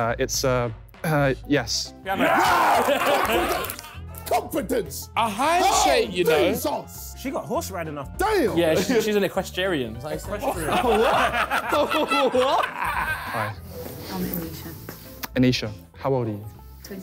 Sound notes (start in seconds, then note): 2.1 screaming; 10.6 laughing